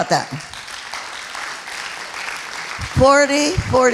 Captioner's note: applauding